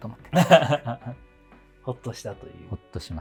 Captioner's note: laughing